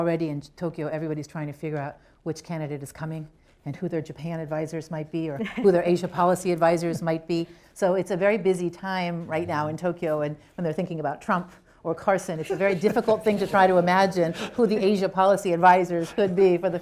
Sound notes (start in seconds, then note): 12.4 laughter